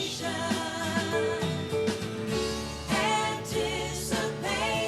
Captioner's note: none